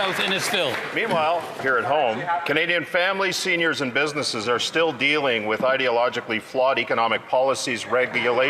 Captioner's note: some Applause